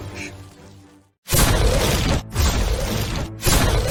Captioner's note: cannon Fire